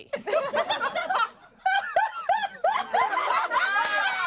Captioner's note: everyone laughs